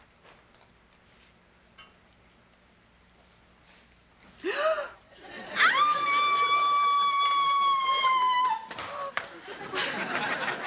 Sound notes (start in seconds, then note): 4.4 loud Gasp; 5.5 loud Scream